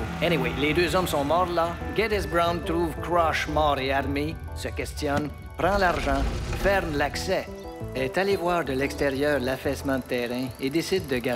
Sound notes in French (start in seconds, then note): none